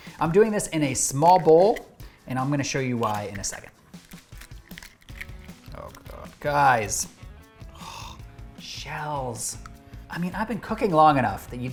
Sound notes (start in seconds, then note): 7.6 exhales